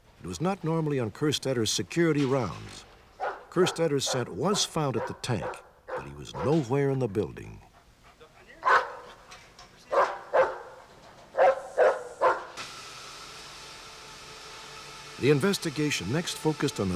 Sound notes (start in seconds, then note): 8.5 dog barking